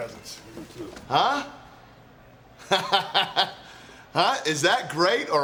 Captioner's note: laughing